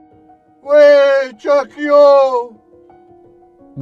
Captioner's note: non-english speech